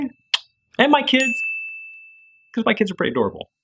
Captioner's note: kissing; bell dinging